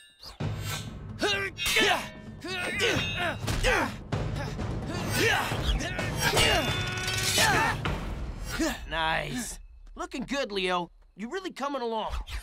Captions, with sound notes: [grunting] Nice. Looking good, Leo. You're really coming along.